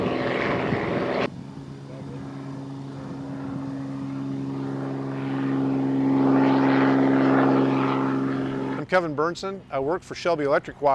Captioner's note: helicopter and plane sounds